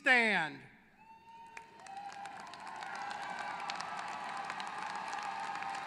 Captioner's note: applause